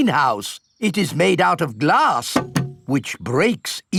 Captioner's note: knocks